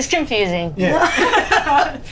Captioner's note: others laugh